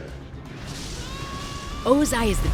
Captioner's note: screaming